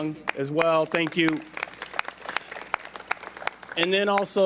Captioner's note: applause